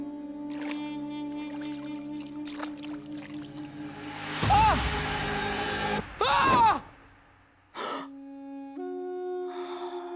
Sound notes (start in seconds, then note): 0.4 splashing; 3.6 screaming; 3.6 shrieking; 7.2 gasping